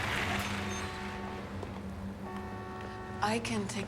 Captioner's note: horns honking